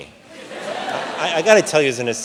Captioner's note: audience laughs